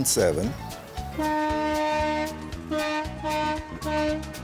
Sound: horn blares

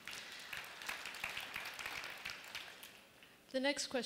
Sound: applause

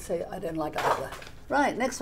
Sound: placard slapping

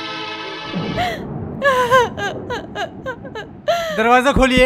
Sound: crying

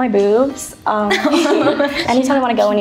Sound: chuckles

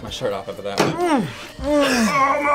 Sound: moans

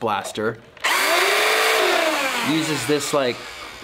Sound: machine whirrs

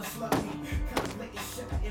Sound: books crashing

